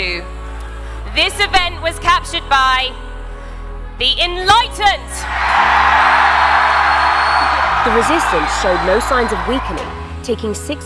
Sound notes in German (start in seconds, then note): 5.2 Menge jubelt